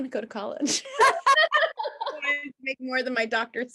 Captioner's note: both laughing